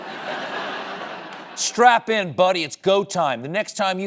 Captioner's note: laughter